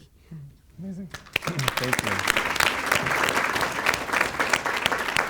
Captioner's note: audience applauds